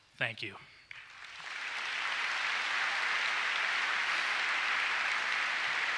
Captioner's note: applause